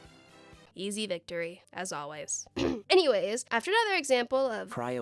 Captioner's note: clears throat